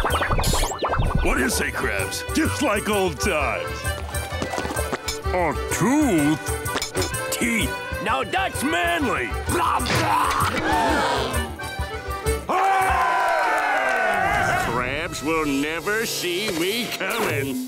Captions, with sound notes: What do you say, Krabs? Just like old times. A tooth? Teeth. Now that's manly. [gasping] [cheering] Krabs will never see me coming.